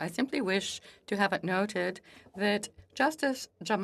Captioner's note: speaking French